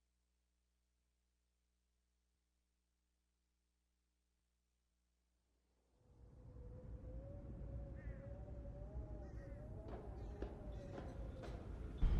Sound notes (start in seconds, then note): 7.9 crow cawing